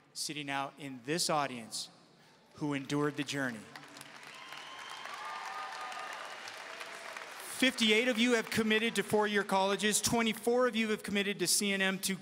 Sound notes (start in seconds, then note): 3.7 audience cheering and applauding